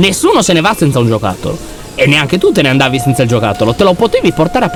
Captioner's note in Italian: suoni meccanici striduli